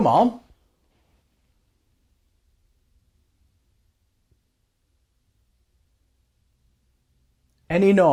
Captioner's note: silence